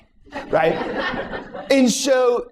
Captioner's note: laughter